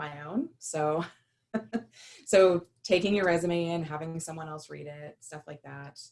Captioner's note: laughter